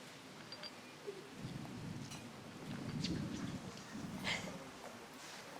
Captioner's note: thunder booming; whimpering